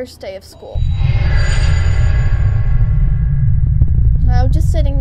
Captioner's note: spooky noise